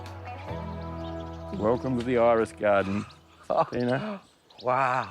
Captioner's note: laughs